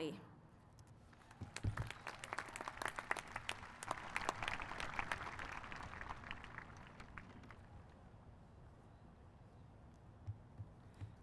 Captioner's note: applause